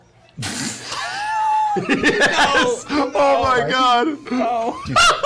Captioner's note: laughter